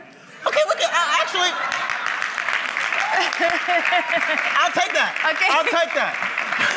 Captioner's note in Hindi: हंसी